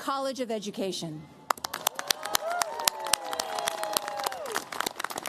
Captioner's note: cheers, applause